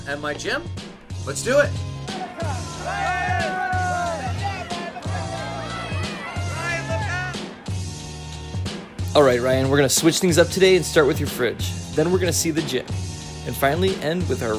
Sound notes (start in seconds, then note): 2.1 paparazzi shouting at Ryan